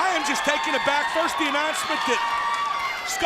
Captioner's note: crowd cheering